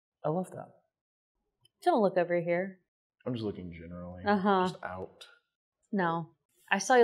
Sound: sounds of mistrust

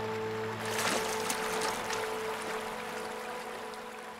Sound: fish splashes

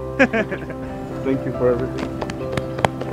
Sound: laughter

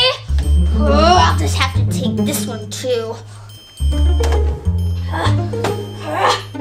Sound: growls; grunting

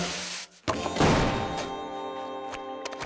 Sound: thudding

